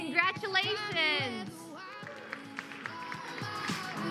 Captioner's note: applause